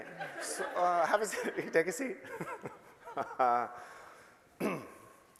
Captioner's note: shouting